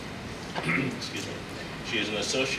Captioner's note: clears throat